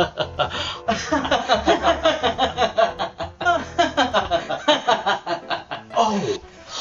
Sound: mad laughter

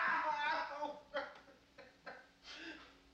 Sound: sobs

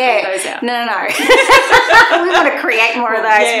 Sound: both laughing

